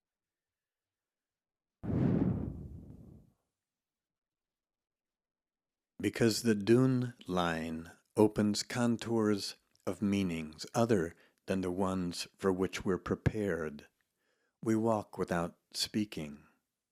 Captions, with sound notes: (air whooshes) "Because the dune line opens contours of meanings other than the ones for which we're prepared, we walk without speaking.